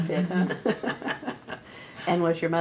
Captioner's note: laughter